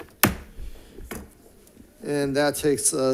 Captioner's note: gavel bangs